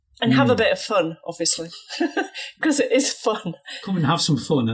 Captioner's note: chuckles